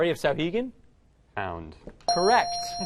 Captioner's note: dinging